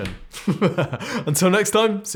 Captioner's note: laughing